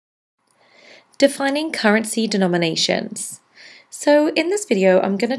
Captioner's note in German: Voiceover